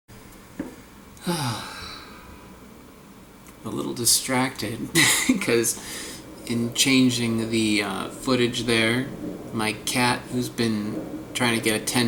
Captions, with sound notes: (Sighs) I'm a little distracted because in changing the footage there, my cat who's been trying to get attention